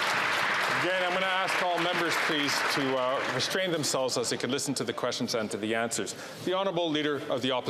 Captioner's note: some Applause